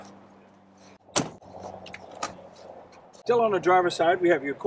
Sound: trunk door thuds

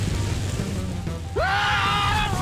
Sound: screaming

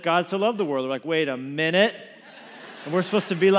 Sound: congregation laughs

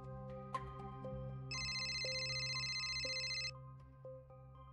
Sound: cellphone ringing

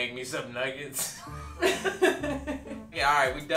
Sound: laughing

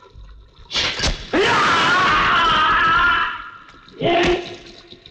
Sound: groans

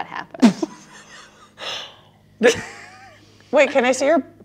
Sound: laughs

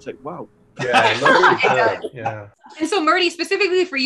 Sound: laughing

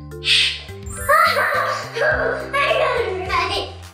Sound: laughing

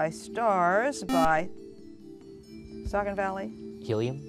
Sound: buzzer

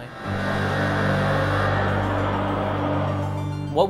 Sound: buzzing siren

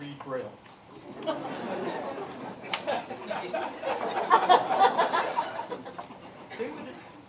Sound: laughter

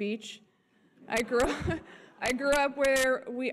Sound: audience chuckles

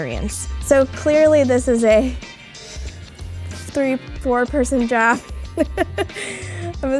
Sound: laughs

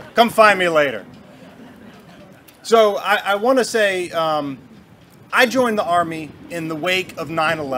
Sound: Booing from the Navy

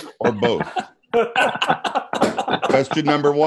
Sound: laughter

